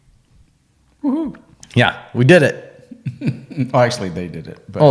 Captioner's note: laughs